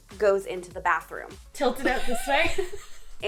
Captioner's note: laughing